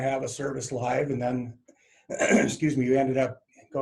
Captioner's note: coughs